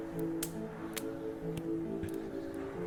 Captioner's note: campfire sounds continue